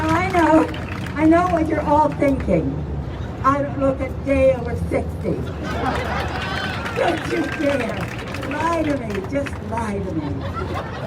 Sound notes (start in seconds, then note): 5.6 crowd cheering; 10.0 crowd laughing